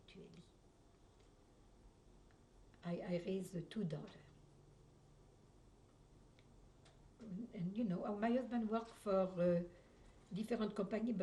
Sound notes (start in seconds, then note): 0.2 pauses for 3 seconds